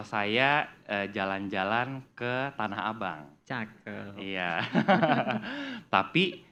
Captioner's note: laugh